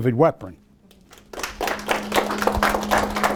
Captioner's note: applause